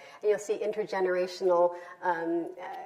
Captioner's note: none